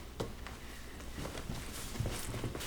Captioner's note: footsteps